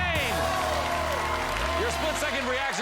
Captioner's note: cheers and applause